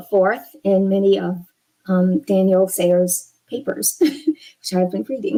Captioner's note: laughs